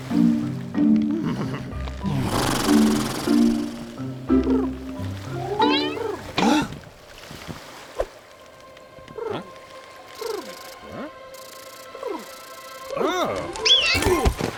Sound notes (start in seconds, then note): 2.0 lips fluttering together; 5.6 shocked exclamation; 8.4 bird cooing